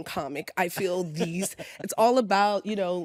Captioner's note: laughs